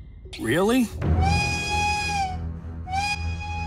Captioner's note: alarm whistle sounds